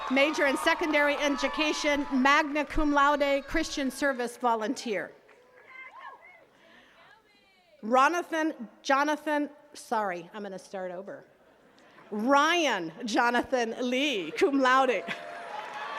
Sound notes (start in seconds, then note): 5.6 attendees chattering